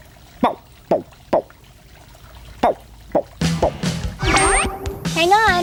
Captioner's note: green frog call